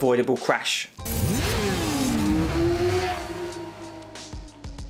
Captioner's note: engine revving